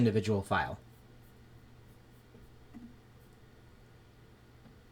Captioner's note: silence